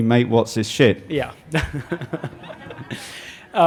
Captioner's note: laughter